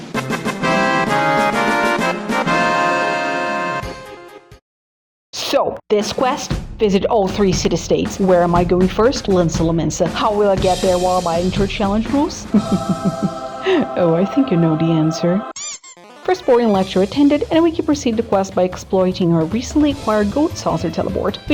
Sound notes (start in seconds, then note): 12.4 chuckles darkly; 15.5 squeaky toy sound